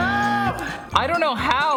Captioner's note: buzzer sounding